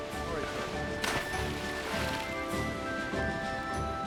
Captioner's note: splashing